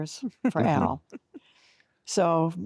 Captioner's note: giggling